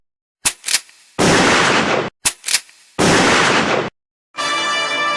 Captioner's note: gunshots